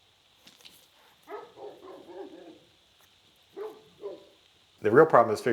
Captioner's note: dog barking